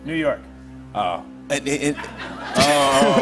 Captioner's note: laughter